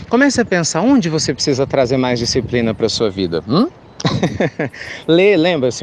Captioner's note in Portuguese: Risos